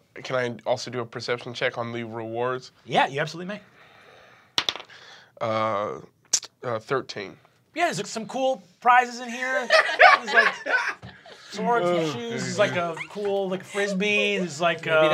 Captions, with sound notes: - Can I also do a perception check on the rewards? - Yeah, you absolutely may. (die clatters) - 13. - Yeah, there's some cool prizes in here. (laughing) Swords and shoes, a cool Frisbee--